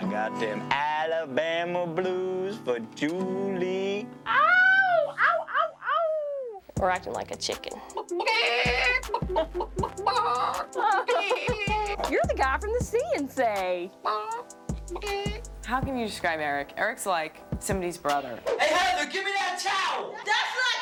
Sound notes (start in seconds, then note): 4.2 whooping; 7.9 clucking